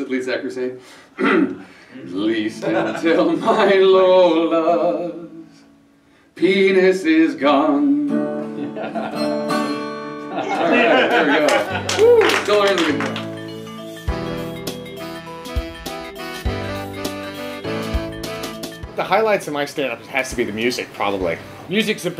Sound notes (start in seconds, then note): 11.2 applause